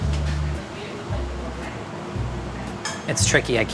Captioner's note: muffled chatter; soft jazzy music